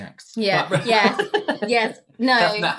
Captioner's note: panicking